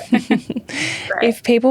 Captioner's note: both laughing